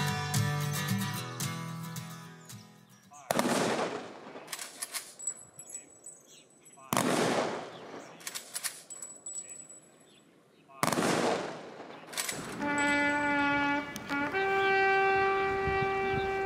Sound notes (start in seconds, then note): 3.2 guns firing; 6.8 guns firing; 10.8 guns firing; 12.4 trumpet playing